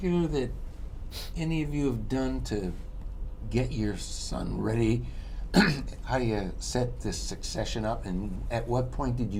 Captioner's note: clears throat